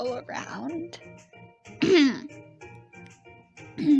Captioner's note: clears throat